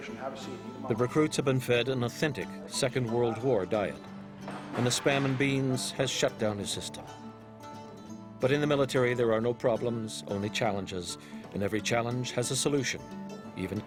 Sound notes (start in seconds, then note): 1.6 voiceover